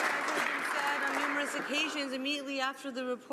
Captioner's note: some Applause